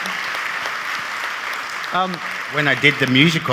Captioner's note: audience applauding